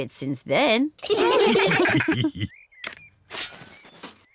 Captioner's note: all laugh